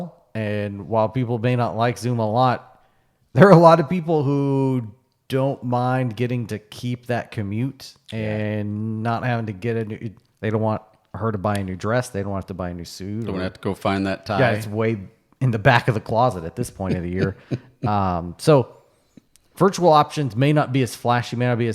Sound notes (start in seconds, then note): 16.7 laughing